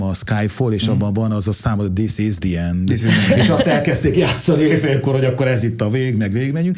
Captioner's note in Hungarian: nevetés